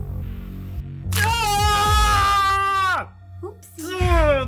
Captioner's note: prisoner screaming